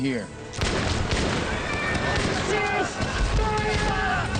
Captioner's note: gunshots